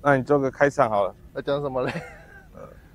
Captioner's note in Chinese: 尬笑